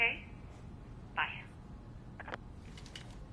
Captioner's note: line disconnecting